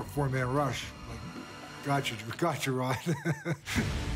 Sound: laughs

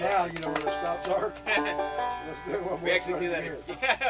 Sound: banjo player laughs

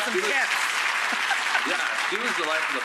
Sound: audience applauding

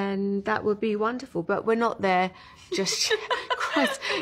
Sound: laughing

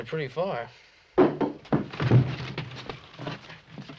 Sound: rock thuds

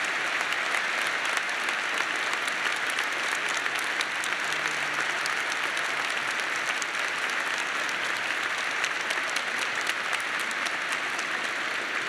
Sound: applause

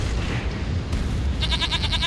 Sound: bleats

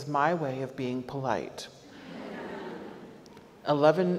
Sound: audience laughs

